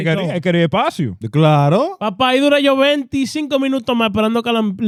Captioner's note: speaking In Foreign Language